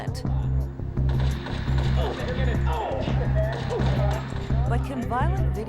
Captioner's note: gunfire from computer